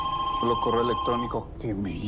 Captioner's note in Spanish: Suena el teléfono